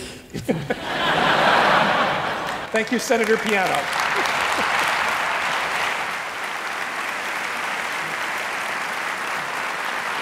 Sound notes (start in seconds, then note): 0.4 laughing; 4.9 applauding